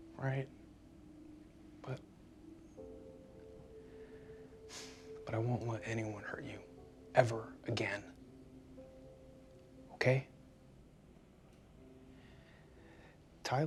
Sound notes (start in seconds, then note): 4.6 sighs; 10.7 gentle music